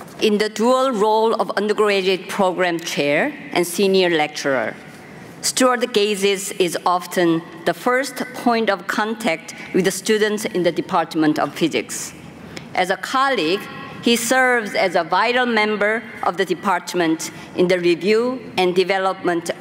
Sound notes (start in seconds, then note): none